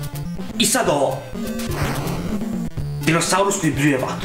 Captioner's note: fwoosh